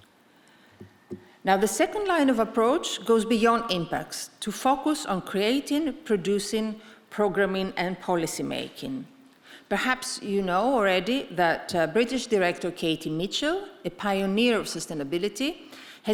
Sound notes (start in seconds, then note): none